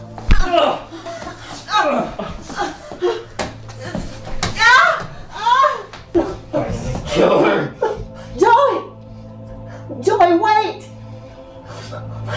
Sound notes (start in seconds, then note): 0.0 gagging; 0.3 thudding; 1.5 groaning; 4.6 yelling